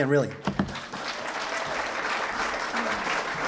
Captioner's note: applause